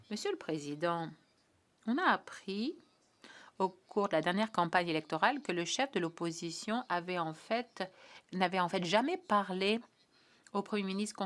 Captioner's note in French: voix de l'interprète